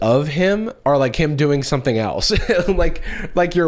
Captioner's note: laughs